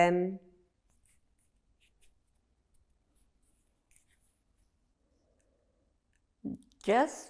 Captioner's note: pauses 6 seconds